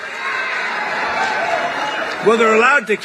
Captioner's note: cheers